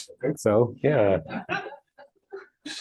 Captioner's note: laughter